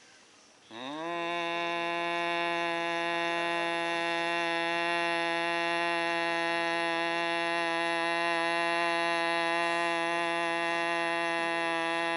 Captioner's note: humming